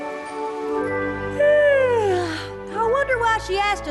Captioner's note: yawn